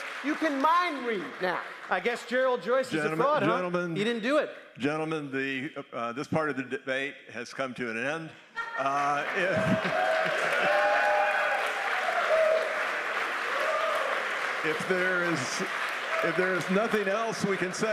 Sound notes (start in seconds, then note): 8.8 applause